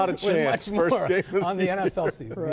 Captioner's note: laughter